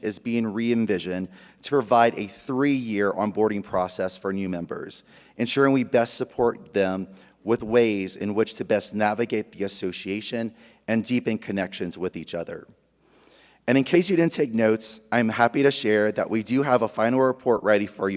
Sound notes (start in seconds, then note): none